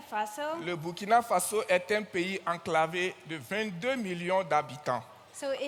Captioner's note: continues in French